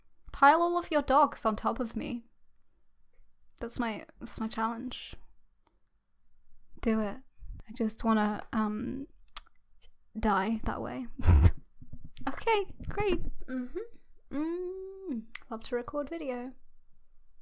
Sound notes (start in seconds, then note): 11.2 laughing